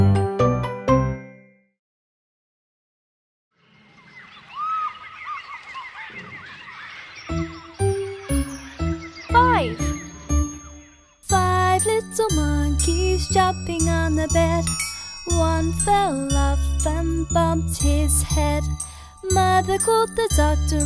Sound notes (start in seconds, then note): 3.6 birds chirping; 4.1 monkeys chattering; 7.8 upbeat pop music